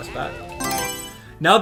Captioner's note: Mario Selection Sound